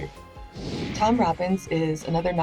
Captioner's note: screen whooshing